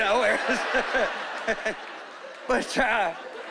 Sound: chuckling

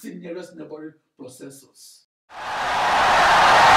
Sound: wild applause and cheering for 17 seconds

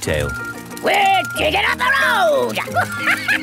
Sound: chuckles

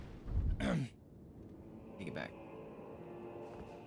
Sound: clears throat

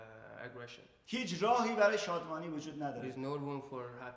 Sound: speaking in farsi

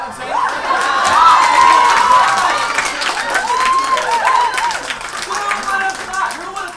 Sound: audience cheers and applauds

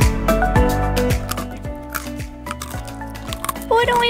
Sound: munching

